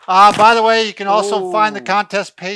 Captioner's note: crashes